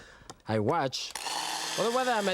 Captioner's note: food processor spinning